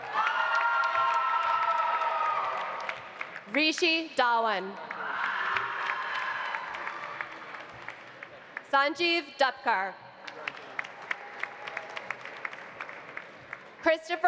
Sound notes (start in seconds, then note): 0.0 audience cheering; 0.0 audience applauding; 4.8 audience applauding; 5.0 audience cheering; 10.2 audience applauding